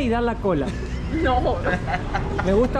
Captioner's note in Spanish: Risas